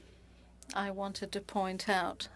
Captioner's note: speaking French